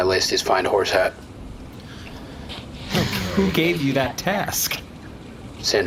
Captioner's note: sighs